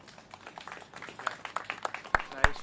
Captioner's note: applause